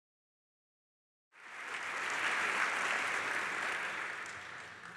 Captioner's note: applause